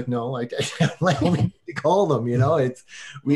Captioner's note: laughing